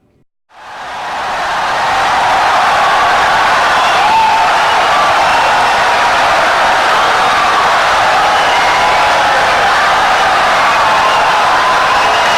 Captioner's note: wild applause and cheering for 17 seconds